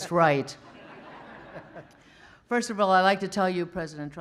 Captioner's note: laughter